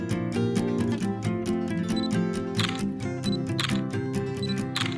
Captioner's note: camera shutter beeping and clicking